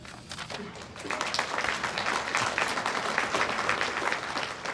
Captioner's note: audience applauds